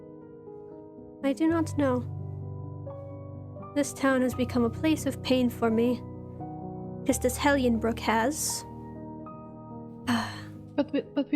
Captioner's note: sighs